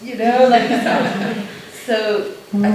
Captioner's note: laughter